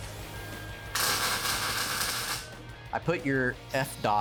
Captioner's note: tool buzzing